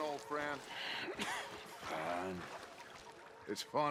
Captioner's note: coughs